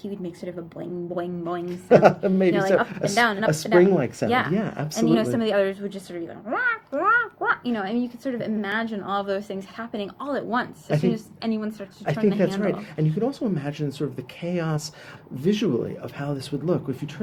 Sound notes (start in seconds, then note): 1.8 laughter